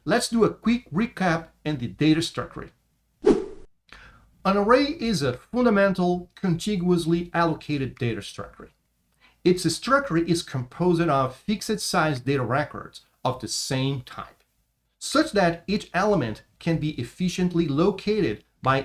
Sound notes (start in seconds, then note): 3.2 transition swishes